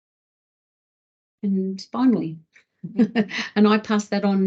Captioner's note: chuckles